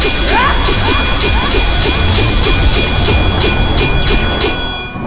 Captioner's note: swords clanging; electricity crackling; Xu Xang grunting